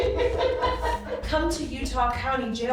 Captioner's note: laughing